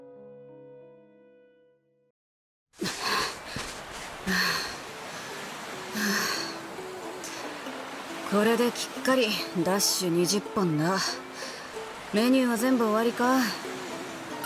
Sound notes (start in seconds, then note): 2.8 huff